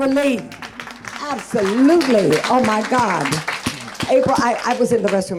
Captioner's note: audience clapping